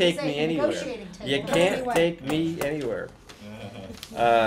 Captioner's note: background talking; laughter